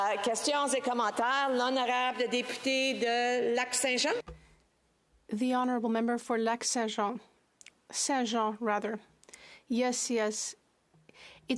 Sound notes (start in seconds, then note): 5.9 speaking French